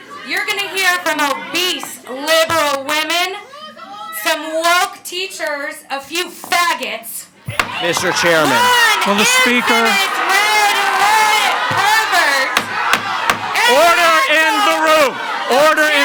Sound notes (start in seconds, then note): 7.4 gavel bangs; 10.9 audience shouts indistinctly; 11.6 gavel bangs